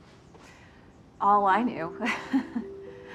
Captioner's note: chuckling